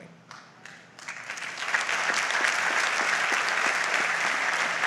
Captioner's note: audience applauds